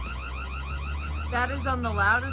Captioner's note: camera siren blaring